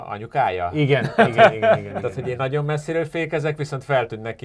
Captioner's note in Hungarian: nevetés